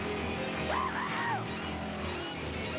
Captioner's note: gasping